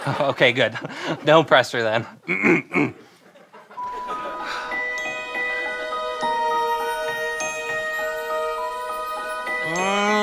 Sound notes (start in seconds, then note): 2.2 clears throat; 3.8 magical music